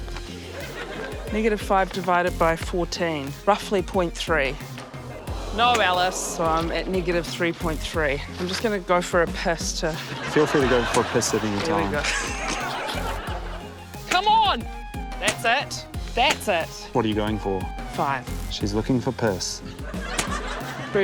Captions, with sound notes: Negative five divided by 14. Roughly 0.3. (CLAMOURING) - No, Alice. So I'm at -3.3. I'm just gonna go for a piss to... (LAUGHTER) - Feel free to go for a piss at any time. - There we go. (LAUGHS) Come on. That's it. That's it. - What are you going for? - Five. - She's looking for piss. (LAUGHTER)